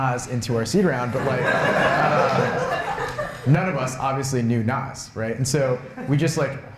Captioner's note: laughter